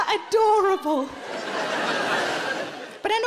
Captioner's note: audience laughing